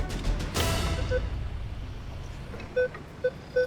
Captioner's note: beeping